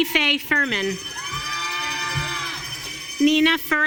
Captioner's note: audience cheering